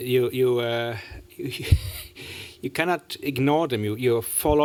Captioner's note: chuckles